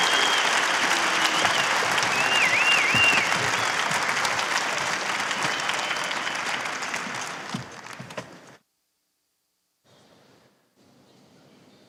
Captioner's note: cheers and applause